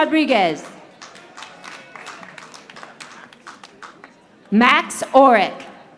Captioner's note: audience applauding